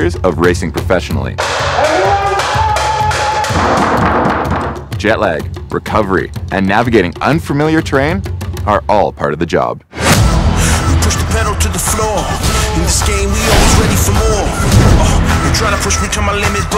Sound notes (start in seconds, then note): 1.5 pans clanging; 3.6 pounding; 10.0 upbeat music